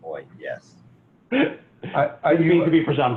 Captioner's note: chuckling